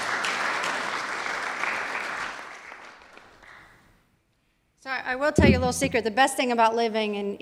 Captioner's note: clapping